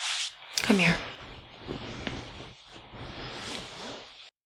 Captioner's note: none